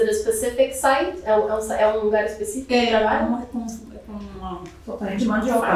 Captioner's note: speaking portuguese